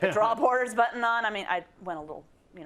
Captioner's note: laugh